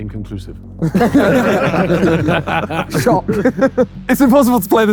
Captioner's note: group laughing